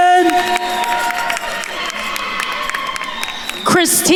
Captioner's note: attendees cheering and applauding